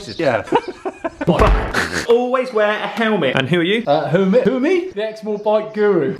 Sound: bang

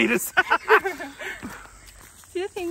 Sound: chuckling

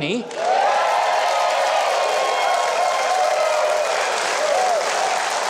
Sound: audience cheering and applauding

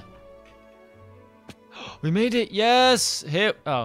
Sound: gasps

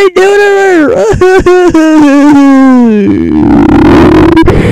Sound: idiotic crying sounds

